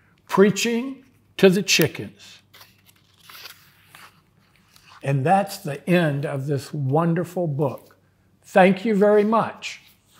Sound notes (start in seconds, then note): 2.4 pages rustling